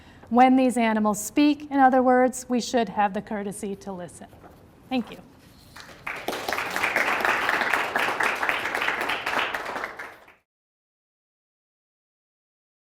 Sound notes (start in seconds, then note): 5.7 audience applauding